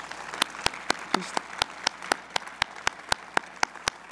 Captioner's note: applause